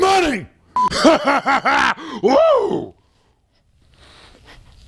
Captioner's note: demonic laughter